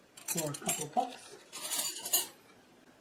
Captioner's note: clanking flatware